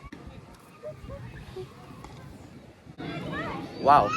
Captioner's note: whistling